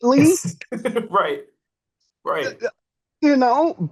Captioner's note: laughs